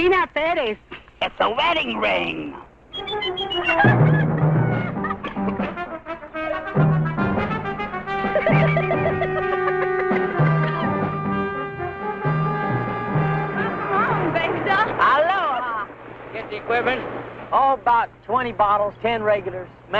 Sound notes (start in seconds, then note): 3.1 upbeat instrumental music; 8.2 Rosina laughing